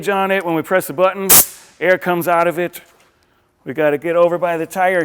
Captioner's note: air chuck hisses